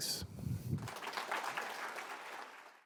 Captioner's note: applause